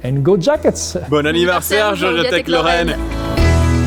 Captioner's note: speaking foreign language; upbeat music